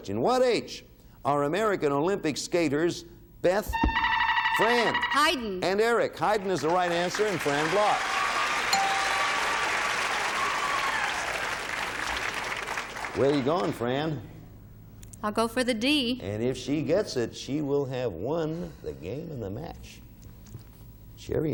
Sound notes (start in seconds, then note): 3.8 buzzer beeping